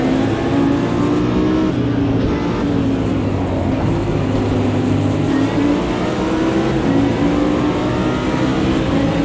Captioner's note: engine revving